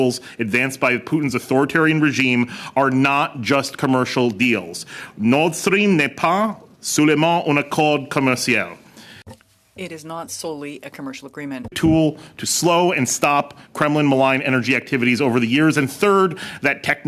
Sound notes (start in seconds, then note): 8.9 speaking French